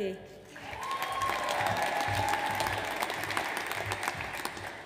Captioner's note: audience applauds